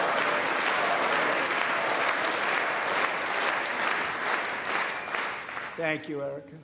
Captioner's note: applause